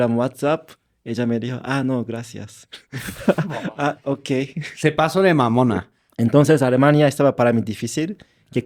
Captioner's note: laughs